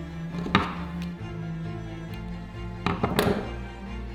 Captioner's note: tool thudding